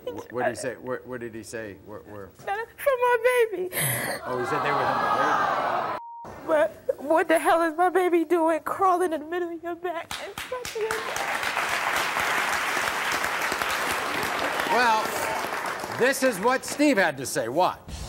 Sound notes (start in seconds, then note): 10.1 audience claps